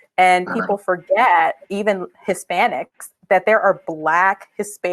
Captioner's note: speaking spanish